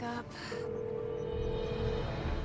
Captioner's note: line rings; sighs